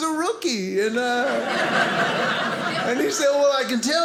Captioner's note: audience laughing